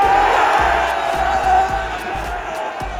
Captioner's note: fans celebrating goal